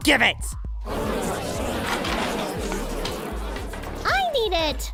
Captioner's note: arguing